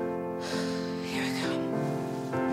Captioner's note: sighs